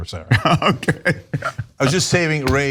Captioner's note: laugh